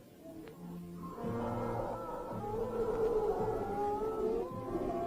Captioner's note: howling